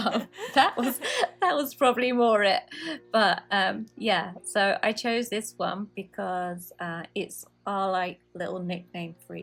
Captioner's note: haha